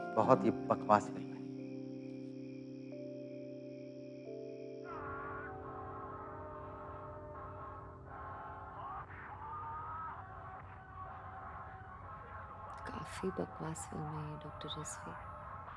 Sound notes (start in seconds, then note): 5.0 Movie playing on laptop